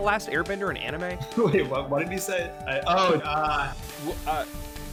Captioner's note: laughing